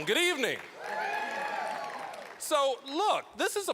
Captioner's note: cheering